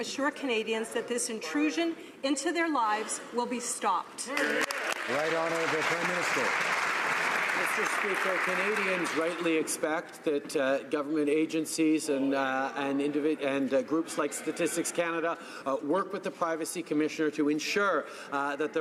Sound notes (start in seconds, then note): 7.2 some Applause